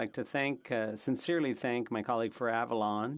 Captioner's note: speaking French